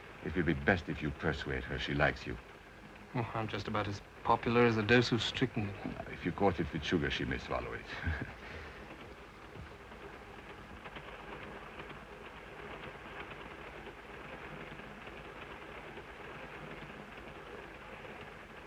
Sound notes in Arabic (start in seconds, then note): 8.0 تضحك; 10.0 صوت خشخشة القطار